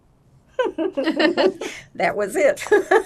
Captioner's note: laughing